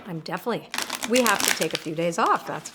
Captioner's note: cards shuffle